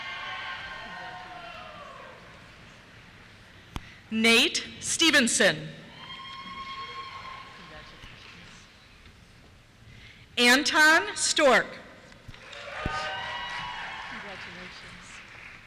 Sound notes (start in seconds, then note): 0.0 cheers; 5.8 cheers; 12.4 cheers